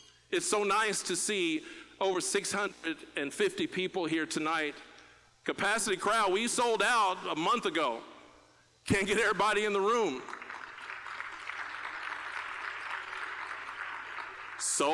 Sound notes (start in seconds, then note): 10.2 laughing; 10.6 applause